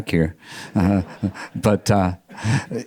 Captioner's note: audience members laughing